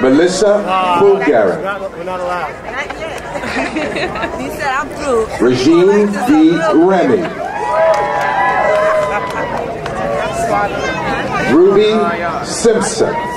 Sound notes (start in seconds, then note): 7.4 crowd cheering